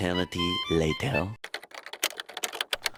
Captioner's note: typing